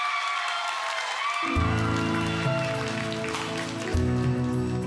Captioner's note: audience cheering